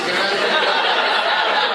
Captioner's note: laughter